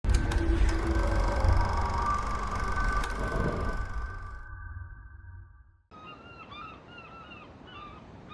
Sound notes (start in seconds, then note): 0.0 film reel clicking; 5.9 seagulls and birds singing